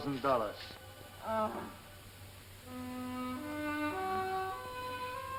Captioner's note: Peggy groans